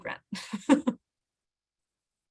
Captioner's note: laughs